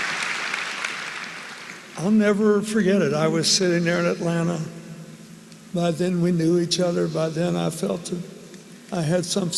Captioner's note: applause